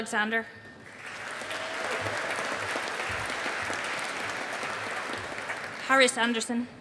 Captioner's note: audience applauding